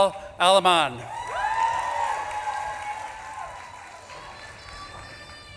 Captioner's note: audience claps and cheers